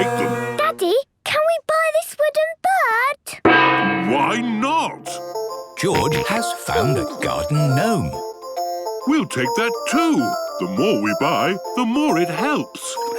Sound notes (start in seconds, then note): 3.2 gong; 8.3 giggling